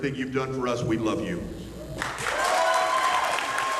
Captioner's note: applause